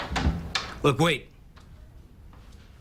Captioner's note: door opens